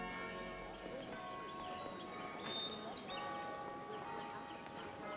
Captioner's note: church bell rings